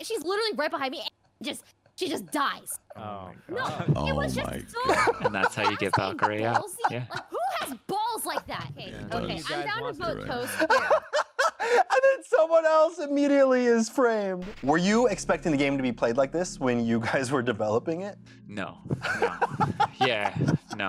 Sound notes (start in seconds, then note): 10.4 laughter; 18.9 laughter